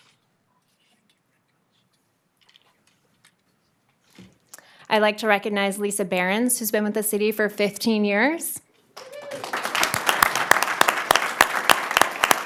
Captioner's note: applause